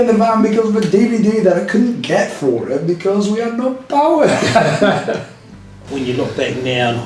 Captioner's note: laughter